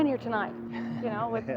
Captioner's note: laughter